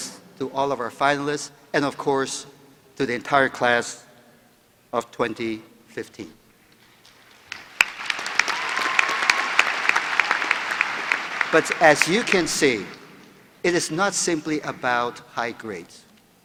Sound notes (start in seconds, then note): 7.0 applause